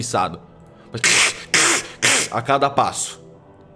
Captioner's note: scrunch, scrunch